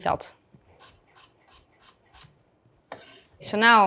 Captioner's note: knife rustling